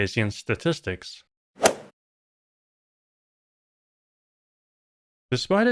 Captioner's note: golf ball hit sound